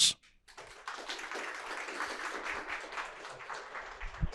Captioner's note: audience applauding